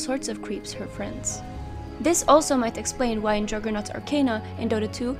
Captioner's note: remote detonation